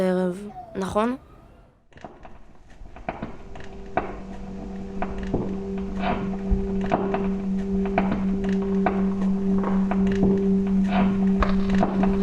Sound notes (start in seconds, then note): 3.3 soft expectant music; 3.4 slides clacking